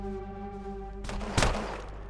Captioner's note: gunshot